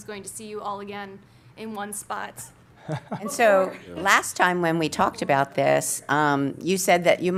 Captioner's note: laughter